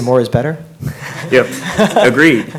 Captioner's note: laughing